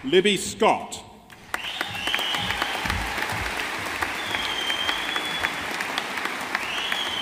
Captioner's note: audience applauding